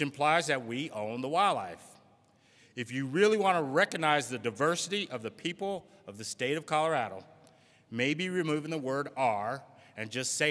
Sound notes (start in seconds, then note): none